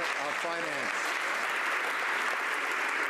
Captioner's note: some Applause